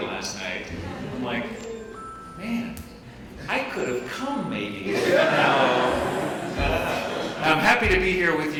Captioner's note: laughing